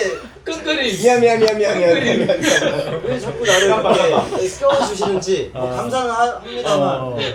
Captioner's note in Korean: 웃음